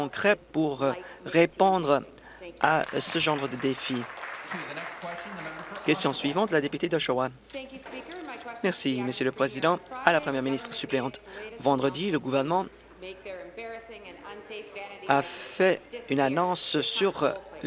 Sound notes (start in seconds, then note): 7.6 applause